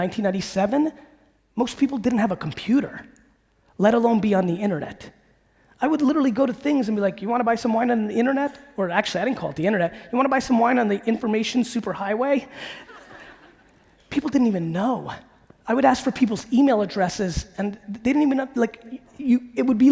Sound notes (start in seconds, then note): 12.7 audience laughing